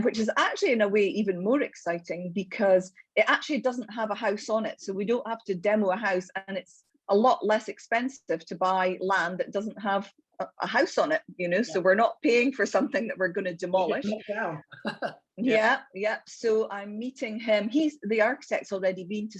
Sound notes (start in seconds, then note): 13.9 laughs